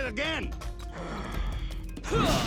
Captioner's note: grunting; growls